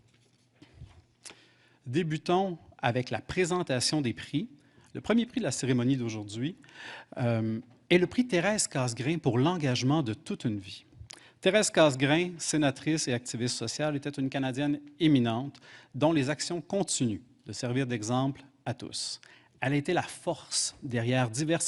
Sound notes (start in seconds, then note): 3.7 speaking French